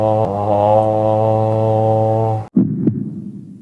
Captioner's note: boat horn sound